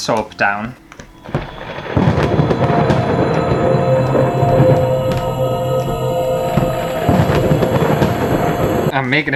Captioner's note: spooky Music; thunder Sounds